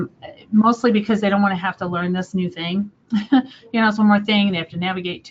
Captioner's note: laughs